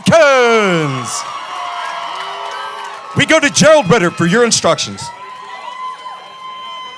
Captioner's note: applause